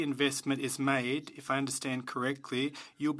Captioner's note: speaking French